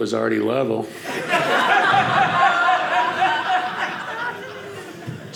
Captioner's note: audience laughing